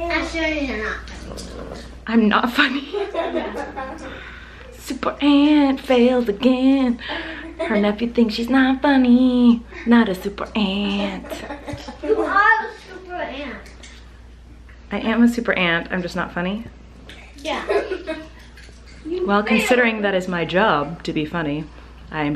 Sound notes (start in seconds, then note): 2.6 laughs; 2.6 kids laugh; 10.9 kids laugh; 17.6 laughter